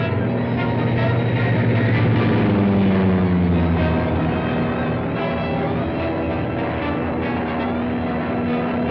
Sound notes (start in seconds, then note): 2.2 plane whirring